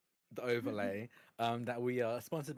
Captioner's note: chuckling